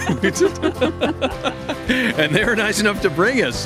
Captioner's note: laughter